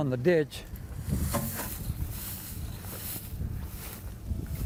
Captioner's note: grass rustling